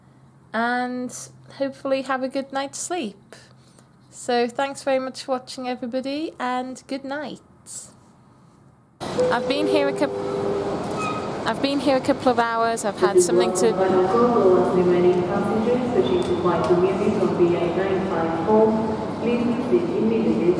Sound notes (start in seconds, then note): 9.1 ding dong; 14.5 female voice talking on tannoy; 17.0 female voice on tannoy